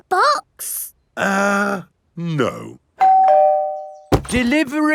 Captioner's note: doorbell rings